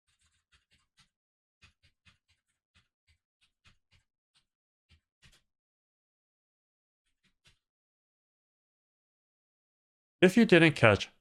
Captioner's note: keyboard sounds